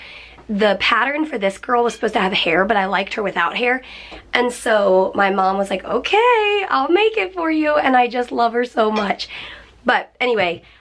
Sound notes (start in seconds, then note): none